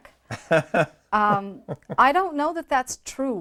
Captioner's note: chuckles